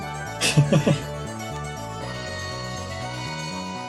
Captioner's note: chuckles